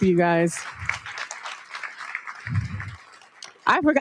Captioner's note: audience applauds